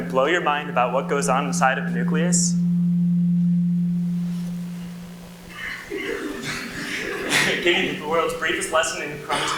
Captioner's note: audio interference